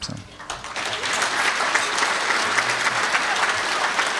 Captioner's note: crowd applauds